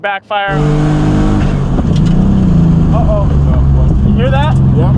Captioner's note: engine roaring